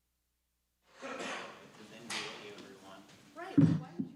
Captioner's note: chatter